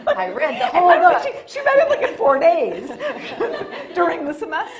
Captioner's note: both laughing